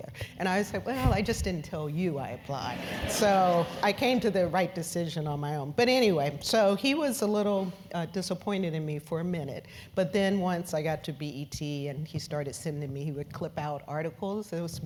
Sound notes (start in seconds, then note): 2.3 laugh